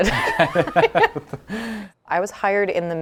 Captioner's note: laughing